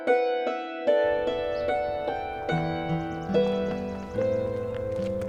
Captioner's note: birds chirping